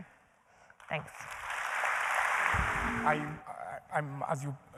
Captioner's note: applause